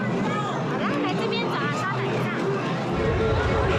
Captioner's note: speaking Chinese